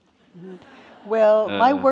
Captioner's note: audience laughs